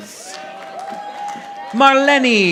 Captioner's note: audience applauding